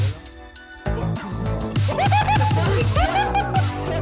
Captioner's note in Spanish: ríete